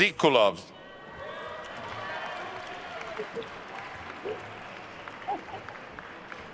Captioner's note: attendees cheering and applauding